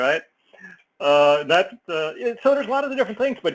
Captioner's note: laugh